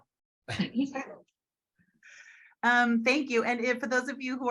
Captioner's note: laughs